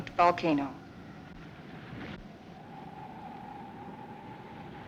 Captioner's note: wind blowing